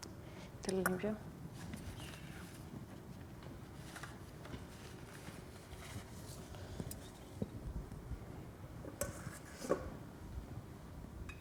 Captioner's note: spanish; speaking spanish